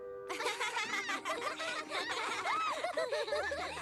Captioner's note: excited giggles